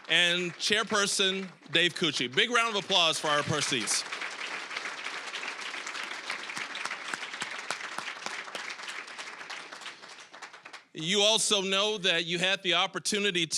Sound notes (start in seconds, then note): 4.3 applause